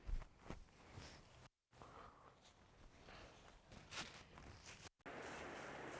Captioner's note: Mercer breathes softly